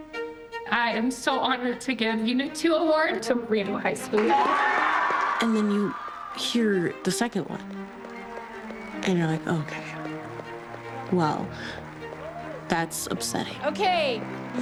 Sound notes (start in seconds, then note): 4.8 cheers and applause